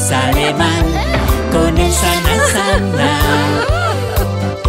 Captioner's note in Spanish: LLanto